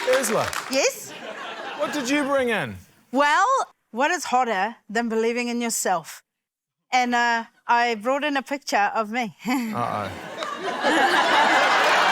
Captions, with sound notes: - Urzila. - Yes. - What did you bring in? - Well, what is hotter than believing in yourself? And I brought in a picture of me. (CHUCKLES) - Uh-oh. (LAUGHTER)